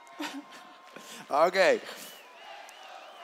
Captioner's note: chanting